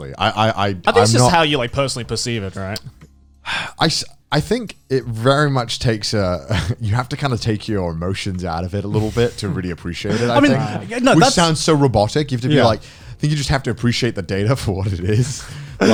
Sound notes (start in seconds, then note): 3.5 Connor sighing